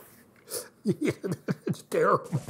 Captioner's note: laughter